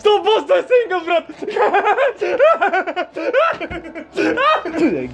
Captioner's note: jinxed laughter